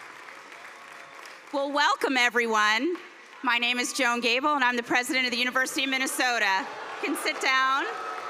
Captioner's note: cheers and applause